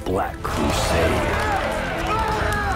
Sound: yelling and Cheering

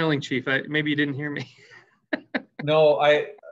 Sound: laughs

